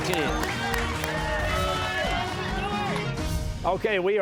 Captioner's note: cheers and applause